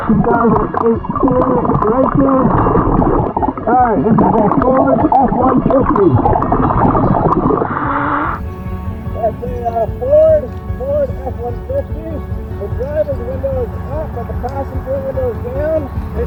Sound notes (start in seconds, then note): 6.4 oxygen bubbling in water; 6.4 oxygen tank hissing